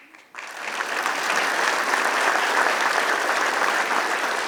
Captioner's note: applause